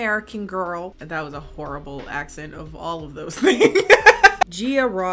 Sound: laughs

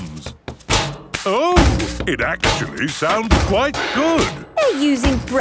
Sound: rhythmic clanging

